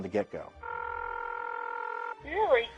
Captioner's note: line ringing